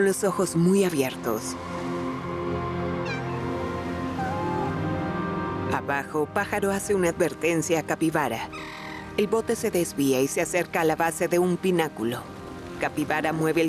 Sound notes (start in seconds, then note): 3.0 maullido